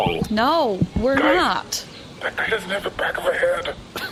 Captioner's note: hushed